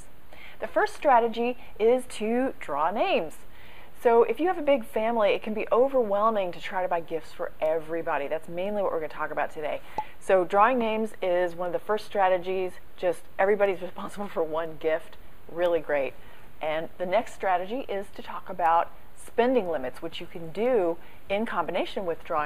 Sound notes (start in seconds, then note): 9.9 pop